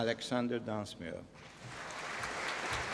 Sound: applause

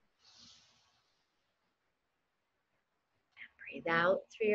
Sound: inhaling

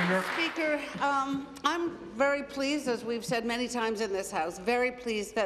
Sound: applause

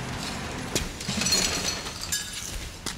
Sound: background traffic

